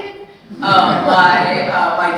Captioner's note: audience laughing